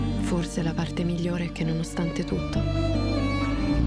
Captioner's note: speaking Italian